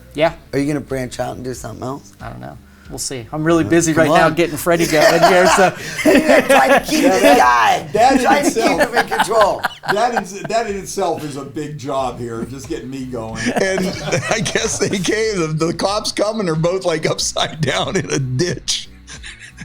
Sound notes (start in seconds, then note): 4.7 laughs loudly; 6.1 mumbles; 13.7 laughs; 19.0 laughs